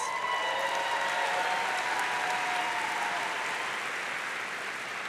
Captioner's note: audience cheering